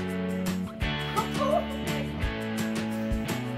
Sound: laughs

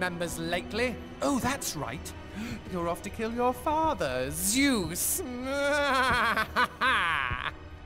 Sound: laughs

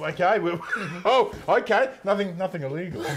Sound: laughing

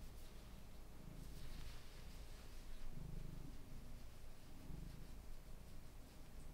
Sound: very subtle purring

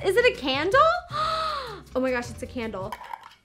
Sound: gasps

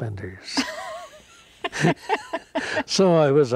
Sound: both laughing

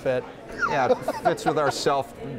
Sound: laughter

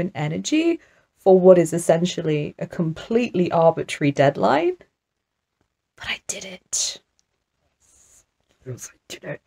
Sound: whispers

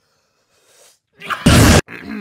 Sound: explosive cough

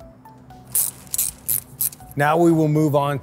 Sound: bright music continues; tool clicking

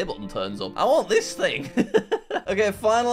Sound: laughs

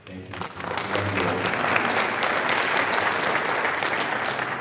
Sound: audience applaud

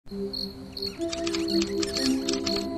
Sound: crickets

